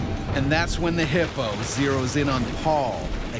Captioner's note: voiceover